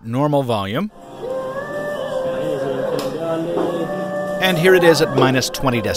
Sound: chatter and soft music

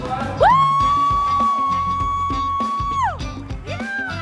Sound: mom cheering

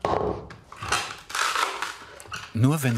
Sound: wood crunches

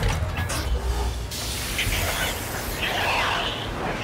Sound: airlocks open; air escapes

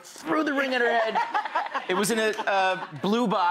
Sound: laughter

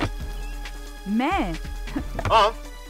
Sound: chuckles

